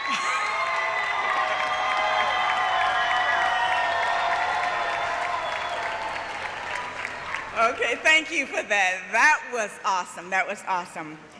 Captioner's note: laughter; cheering